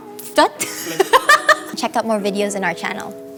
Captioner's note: laughing